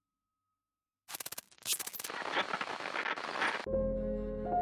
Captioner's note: TV static buzzing; eerie piano music